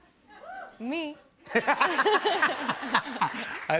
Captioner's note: laughs